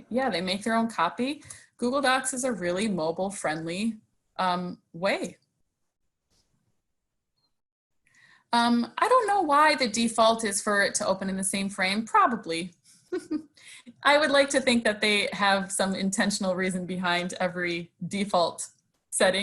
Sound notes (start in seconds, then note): 13.1 chuckles